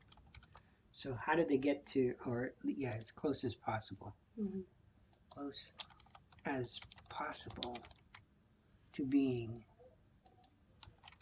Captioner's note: typing